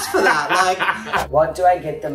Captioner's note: laughs